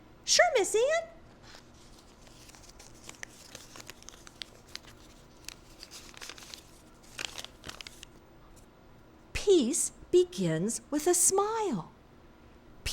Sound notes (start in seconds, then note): 1.4 paper crackling